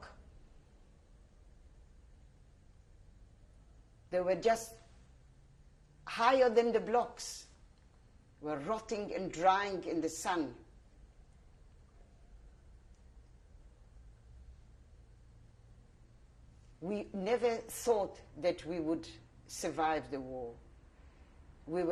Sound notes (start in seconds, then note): 10.7 pauses for 6 seconds